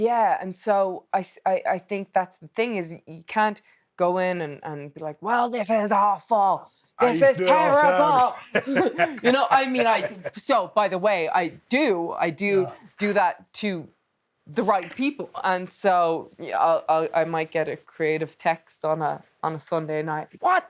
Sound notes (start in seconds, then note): 7.0 Steve laughing